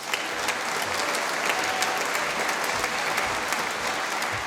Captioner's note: applause